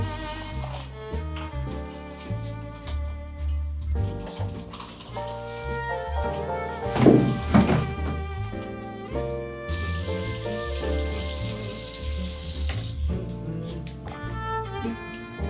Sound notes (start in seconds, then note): 9.7 water trickling